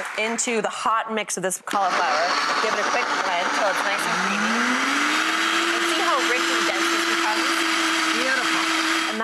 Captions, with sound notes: into the hot mix of this cauliflower. Give it a quick blend, till it's nice and creamy. (blender whirring) See how rich and dense this becomes? Beautiful.